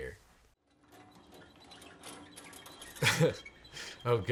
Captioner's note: wheels squeaking; laughs